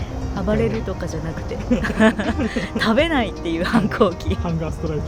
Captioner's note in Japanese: 笑い